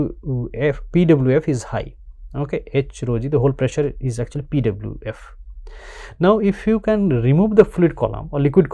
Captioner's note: pwf